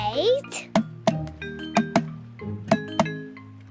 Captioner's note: tapping